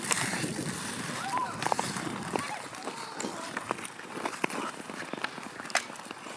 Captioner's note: skates sliding over ice; children shouting